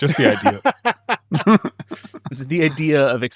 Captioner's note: both laugh